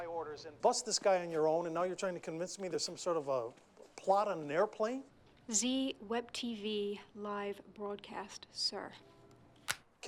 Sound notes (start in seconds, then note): none